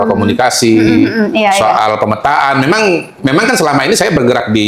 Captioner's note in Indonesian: berdehem